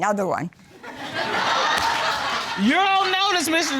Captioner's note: audience laughing